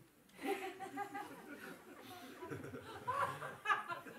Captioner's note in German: Lachen